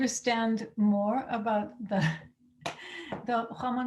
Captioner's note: speaking in Spanish